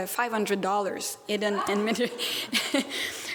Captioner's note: laughs